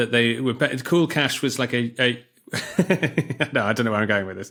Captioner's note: laughs